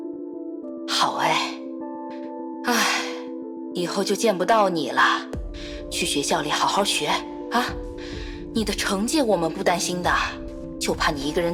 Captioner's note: sigh